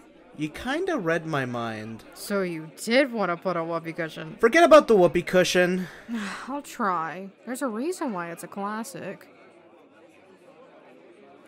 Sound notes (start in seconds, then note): 5.8 sighs